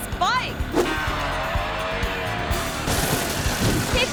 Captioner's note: motorbike engine rumbling; biker thuds